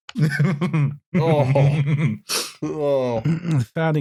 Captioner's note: laughs